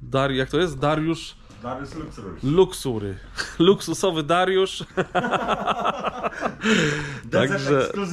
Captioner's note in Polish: śmiech